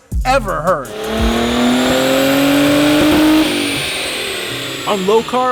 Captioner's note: car engine roars